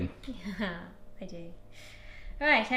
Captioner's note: laughs